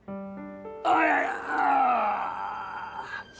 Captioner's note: groaning